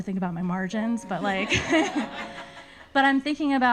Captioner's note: everybody laughing